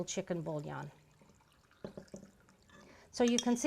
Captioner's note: pouring